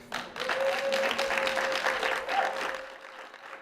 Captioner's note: applause